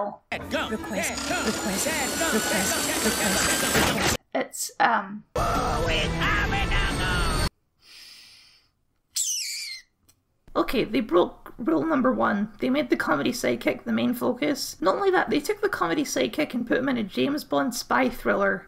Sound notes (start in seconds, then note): 7.8 deep Sigh